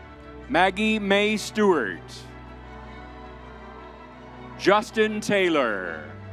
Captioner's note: crowd cheering